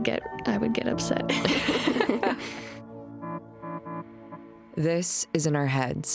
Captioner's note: laughing